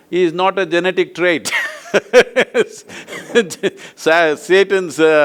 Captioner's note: both laugh